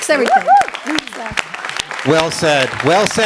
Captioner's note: applause, cheering